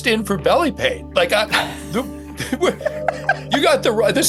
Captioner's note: laughing